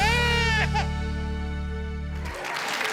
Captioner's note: baby cries; audience applauds